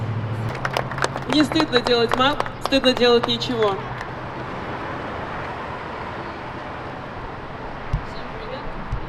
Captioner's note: applause